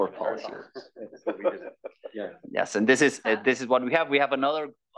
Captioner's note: laugh